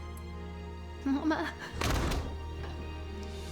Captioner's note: door shuts